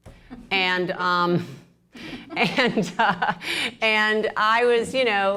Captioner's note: laughter